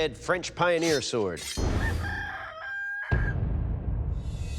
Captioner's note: rooster crowing